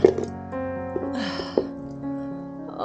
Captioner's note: sigh